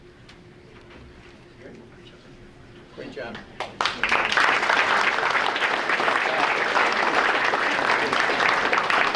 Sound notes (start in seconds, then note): 3.6 audience applauding